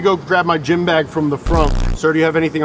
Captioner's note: tones squirt